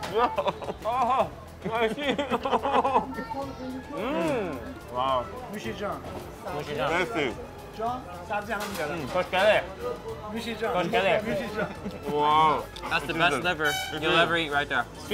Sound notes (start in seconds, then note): 1.6 laughs; 3.9 moans; 5.7 owner speaking foreign language; 6.7 speaking foreign language; 8.3 owner speaking foreign language; 9.4 speaking foreign language; 10.4 owner speaking foreign language